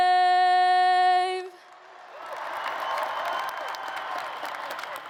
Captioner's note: applause